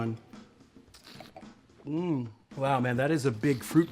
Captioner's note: slurps and swishes wine